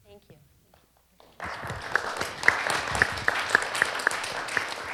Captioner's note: applause